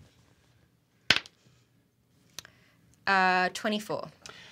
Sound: die clatters

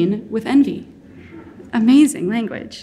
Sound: audience laughing

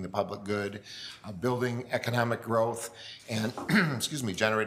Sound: coughs

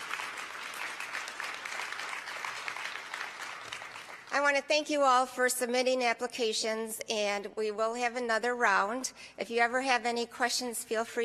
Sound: applause

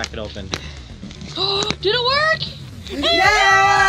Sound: gasp

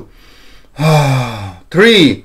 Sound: inhale and exhales

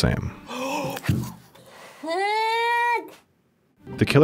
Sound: gasps and exclaims

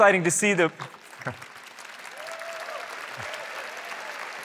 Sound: applause

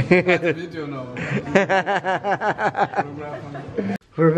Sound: laughs

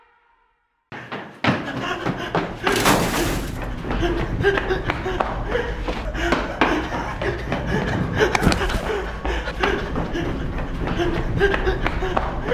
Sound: gasp, gasp

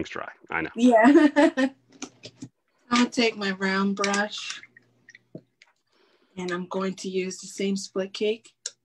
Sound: laughs

